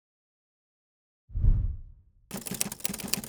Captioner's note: whooshing; typing